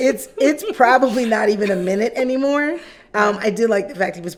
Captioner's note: laughing